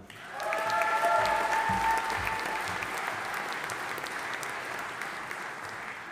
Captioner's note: audience applauding and cheering